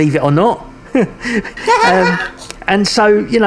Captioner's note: both chuckling